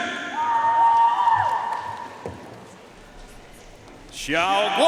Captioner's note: audience cheering and applauding